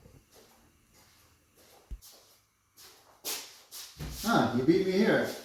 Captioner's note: shuffling footsteps